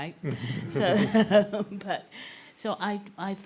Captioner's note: all chuckling